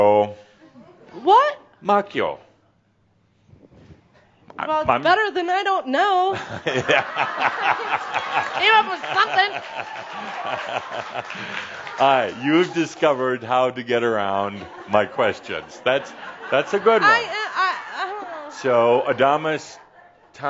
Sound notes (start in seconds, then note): 6.3 laughter; 6.4 laughter and some applause